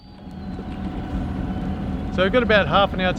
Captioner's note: boat engine roaring